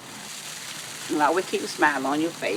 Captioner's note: water splashing